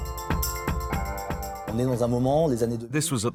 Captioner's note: non-english speech